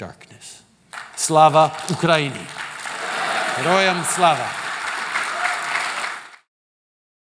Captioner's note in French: Applaudissements